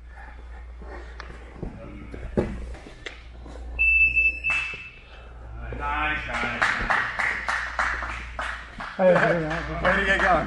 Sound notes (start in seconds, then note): 3.7 alarm beeps; 6.2 spectator applauds